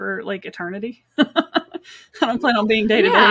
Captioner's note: laughs